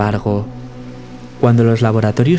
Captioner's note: rain